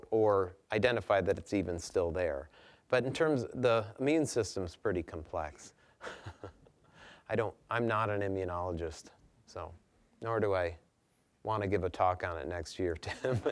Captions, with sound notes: or identify that it's even still there? But in terms-- the immune system's pretty complex. (chuckling) I'm not an immunologist, so... nor do I wanna give a talk on it next year, Tim.